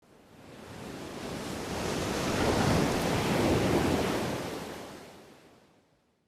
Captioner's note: waves crashing